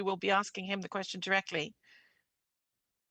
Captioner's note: speaking French